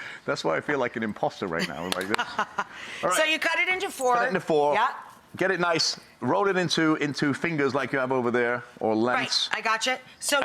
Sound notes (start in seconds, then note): 1.6 laughs